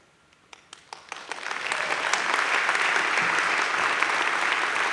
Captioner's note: audience claps